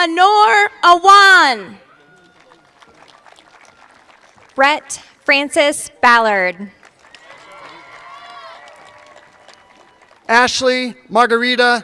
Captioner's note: cheers and applause